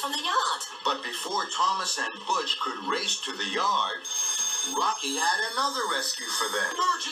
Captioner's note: alarm ringing